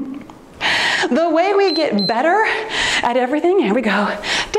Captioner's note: timer beeps